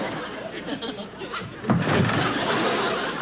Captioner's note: thud